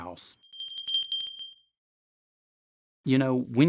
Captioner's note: bell ringing